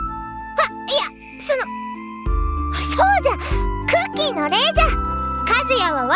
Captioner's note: gasp